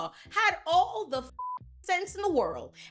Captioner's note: beep